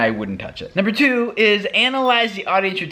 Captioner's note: pinging